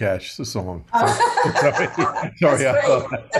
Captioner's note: laughter